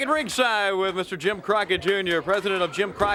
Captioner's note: crowd cheering